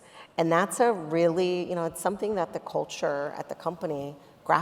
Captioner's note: none